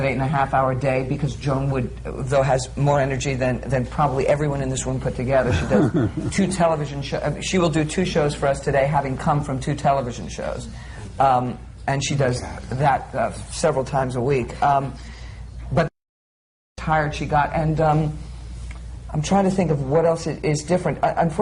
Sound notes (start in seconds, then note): 5.5 laughter